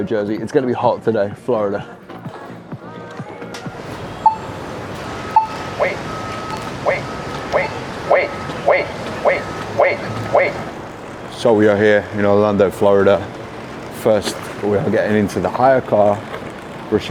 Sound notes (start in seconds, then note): 4.0 crosswalk beeps; 6.3 electronic Voice